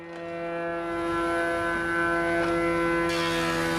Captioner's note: loud engine noise